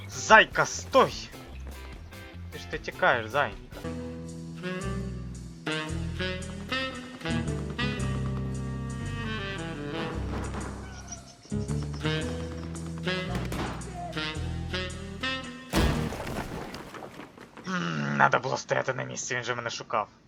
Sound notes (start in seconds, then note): 8.8 steps; 11.6 steps